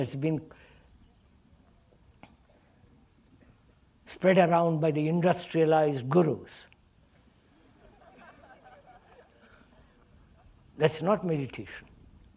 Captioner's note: laughter